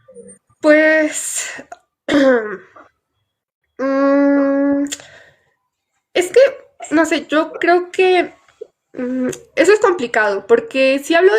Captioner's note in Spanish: carraspeo